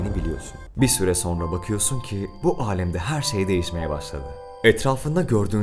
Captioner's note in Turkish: gök gürültüsü sesi; cır cır böceği sesi